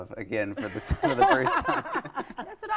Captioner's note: laughing